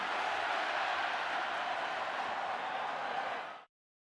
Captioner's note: cheers, applause